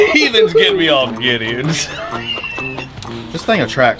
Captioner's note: laughing